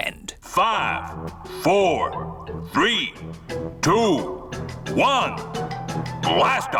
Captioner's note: on speakers